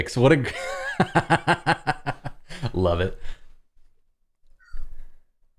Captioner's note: laughter